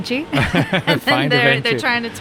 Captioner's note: both laughing